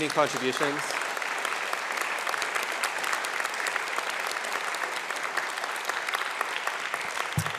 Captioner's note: applause